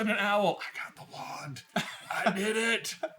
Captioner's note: whispers; laughing